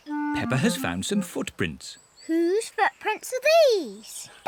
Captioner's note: none